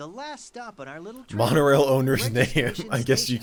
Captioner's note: laughing